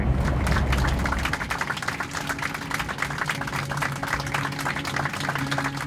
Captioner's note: applause